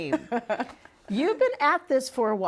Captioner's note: laughing